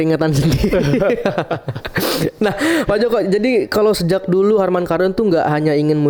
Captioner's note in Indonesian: tertawa